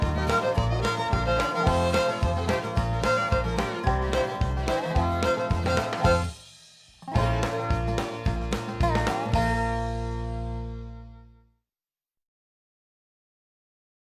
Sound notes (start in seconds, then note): 2.8 laughing